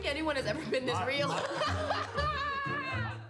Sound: laughs

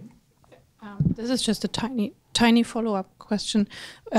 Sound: voiceover

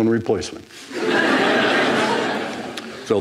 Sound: laughter

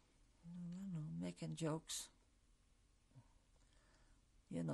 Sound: pauses for 3 seconds

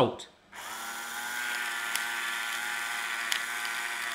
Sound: machine whirring

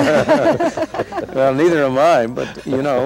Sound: laughter

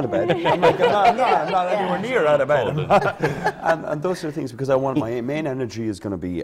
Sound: laughter

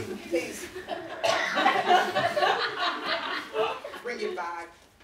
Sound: audience laughing

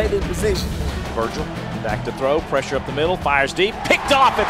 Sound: voiceover

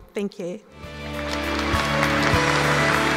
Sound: applause

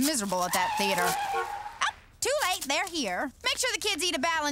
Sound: tires screech, horn honks

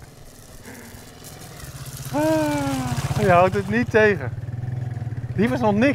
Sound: sighs

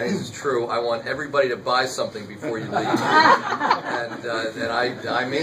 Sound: laughter

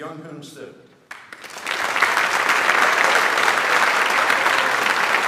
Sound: audience applauds

